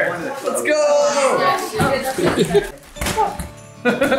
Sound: family chatters excitedly; laughs

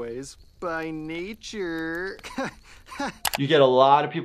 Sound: laughs

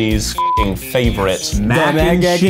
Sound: beep

